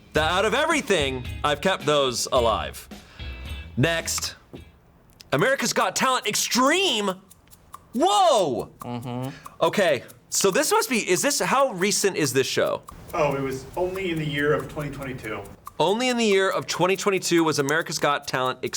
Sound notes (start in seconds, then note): 4.2 button clicks